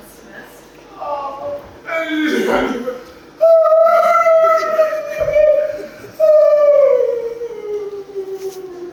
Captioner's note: Deb wails incomprehensibly